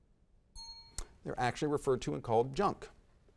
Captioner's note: bell rings